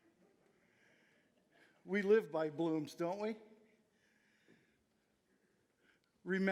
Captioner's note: audience chuckling